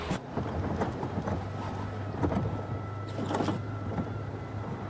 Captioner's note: wind whistling